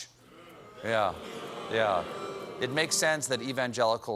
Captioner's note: booing